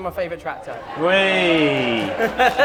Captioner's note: applause; laughter